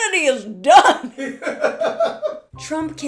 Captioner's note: laughter in background